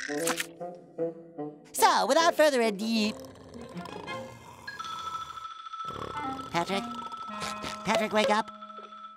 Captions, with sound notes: So, without further ado-- [snoring] Patrick. [snoring] Patrick, wake up.